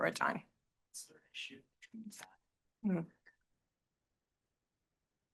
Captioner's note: student speaks faintly